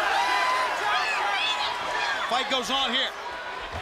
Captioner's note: crowd cheering